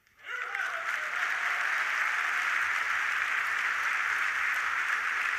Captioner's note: audience applauding